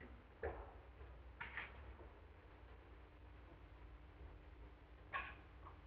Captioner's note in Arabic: طرق على الباب